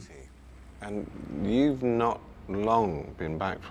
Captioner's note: none